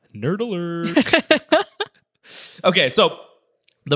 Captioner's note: laughing